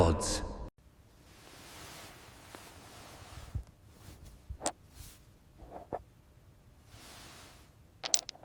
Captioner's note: footsteps thud